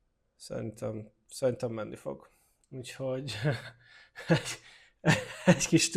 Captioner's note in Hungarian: nevetés